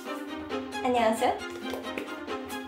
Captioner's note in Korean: 촤악